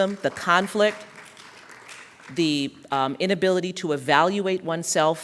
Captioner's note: applause